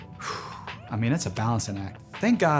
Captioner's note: deep sigh